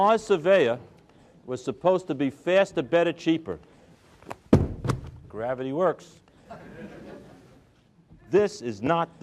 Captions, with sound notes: The Mars Surveyor was supposed to be faster, better, cheaper. (Drops books) Gravity works. (crowd laughs)